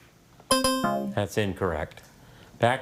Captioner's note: scoreboard buzzes